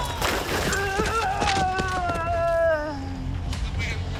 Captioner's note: groans